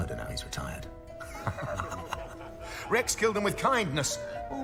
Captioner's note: laughs